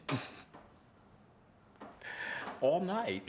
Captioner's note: laughs